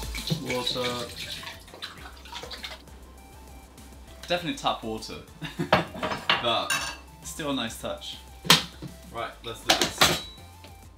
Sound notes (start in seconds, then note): 1.7 water laps; 5.4 giggles